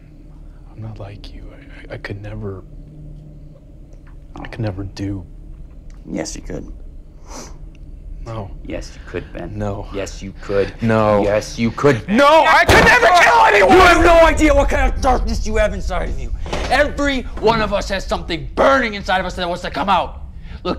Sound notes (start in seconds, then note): 6.8 Tyler sniffs